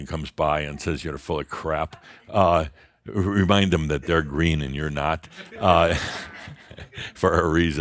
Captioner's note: some chuckles